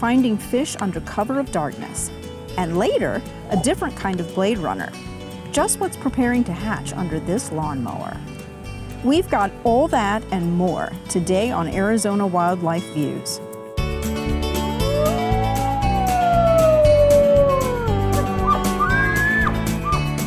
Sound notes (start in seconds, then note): 14.7 wolf howling; 17.9 elk bugling